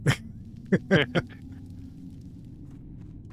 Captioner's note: laughs